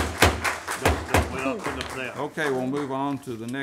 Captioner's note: gavel sounds; applause